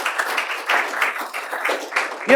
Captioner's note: applause